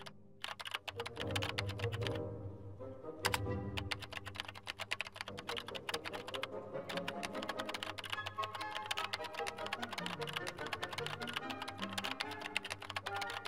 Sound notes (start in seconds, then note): 2.6 keyboard typing sounds